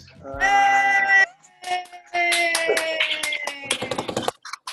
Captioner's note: loud cheers and claps